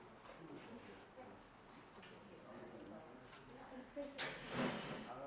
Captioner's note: participants chattering